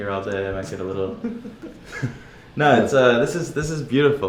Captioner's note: laughs